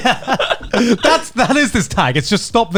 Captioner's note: both laughing